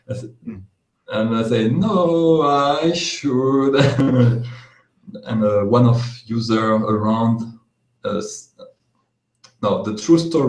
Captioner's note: laughs